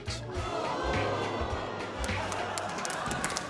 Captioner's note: audience groan